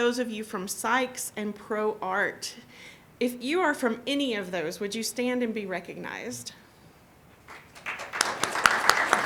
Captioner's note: applause